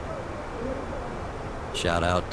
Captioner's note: radio chatter